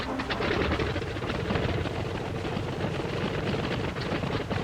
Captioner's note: rotor clacking